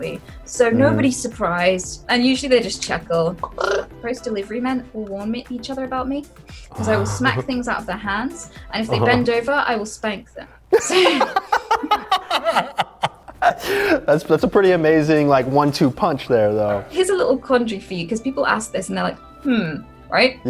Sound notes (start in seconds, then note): 10.7 both laugh